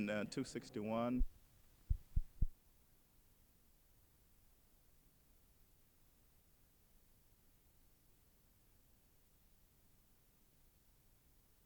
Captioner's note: silent